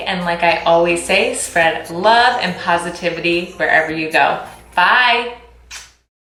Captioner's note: kissing